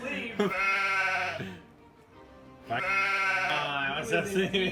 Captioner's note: sheep noise